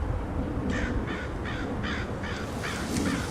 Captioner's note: crow caws